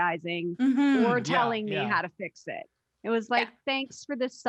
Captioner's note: all murmuring in agreement